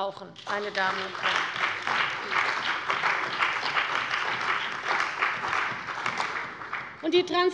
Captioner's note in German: Beifall bei der CDU und dem BÜNDNIS 90/DIE GRÜNEN